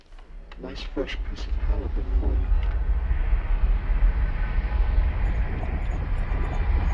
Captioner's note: tense warbling; voice distorting